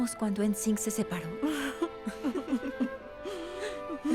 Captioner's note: Ambas ríen